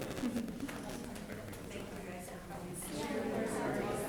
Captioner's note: group talking